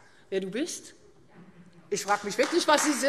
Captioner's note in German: Beifall Freie Demokraten und SPD